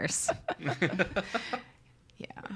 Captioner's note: all laugh